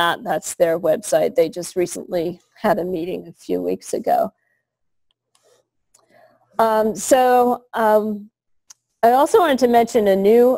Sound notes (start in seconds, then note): 4.8 pause